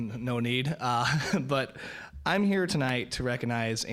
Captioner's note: laughing